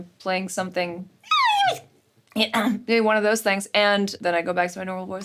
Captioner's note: clears throat